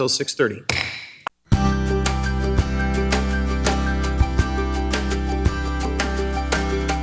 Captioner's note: gavel thuds; gentle upbeat music